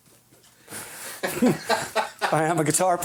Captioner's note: laughing